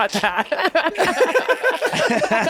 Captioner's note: group laughs